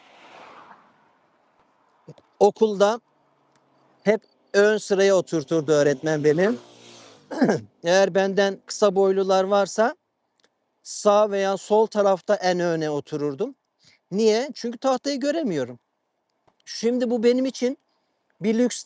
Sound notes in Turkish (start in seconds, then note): 7.3 boğazını temizler